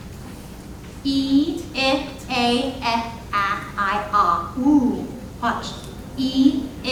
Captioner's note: imitating vowel sounds